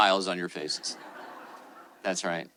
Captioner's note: attendees laughing